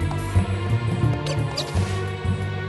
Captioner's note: squeak!